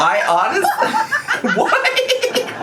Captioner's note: laughs